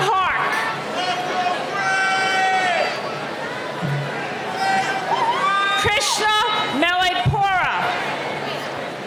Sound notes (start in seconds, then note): 1.5 audience member yelling off microphone